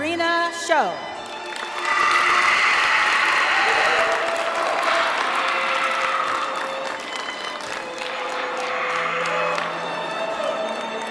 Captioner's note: applause